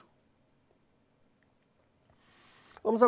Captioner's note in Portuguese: pausa sonora